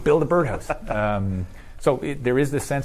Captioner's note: laughs